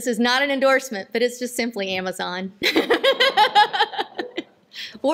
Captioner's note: laughter